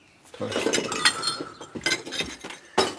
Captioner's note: clinking